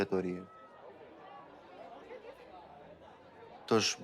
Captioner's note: people chattering